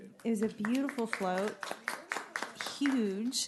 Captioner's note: applause